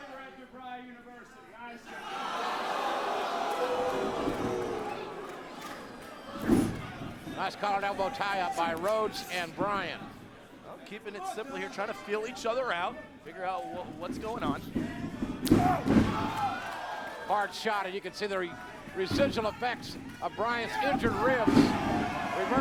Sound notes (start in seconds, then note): 1.9 audience booing